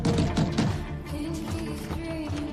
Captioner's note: knocking on door